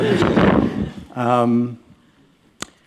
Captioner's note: laughter